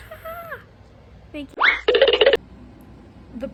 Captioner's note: comical noise